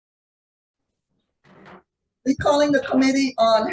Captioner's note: gavel banging